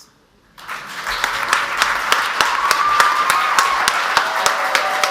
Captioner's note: audience applauds